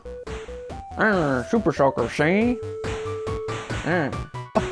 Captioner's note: 20’s gangster accent